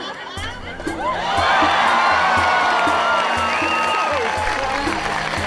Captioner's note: audience cheering and applauding